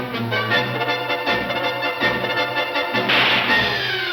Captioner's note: gun shot fires